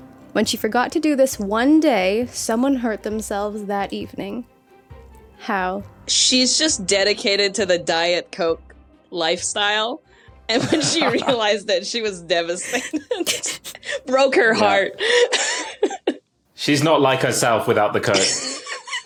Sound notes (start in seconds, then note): 14.5 giggle